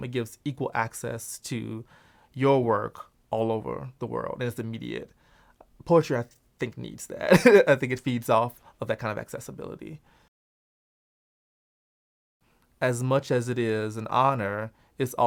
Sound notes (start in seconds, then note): 7.3 laughs